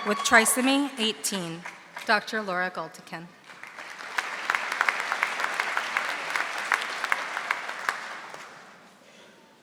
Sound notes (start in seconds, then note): 3.4 audience applauding